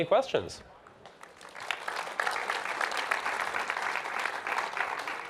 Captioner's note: audience applauding